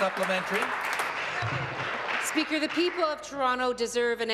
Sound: applause

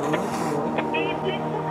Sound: Rocky hisses

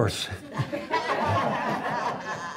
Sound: laughter

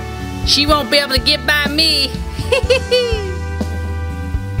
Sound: laughs

